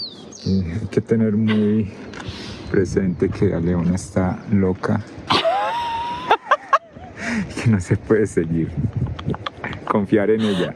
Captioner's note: in Spanish